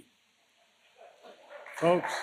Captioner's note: laughter and applause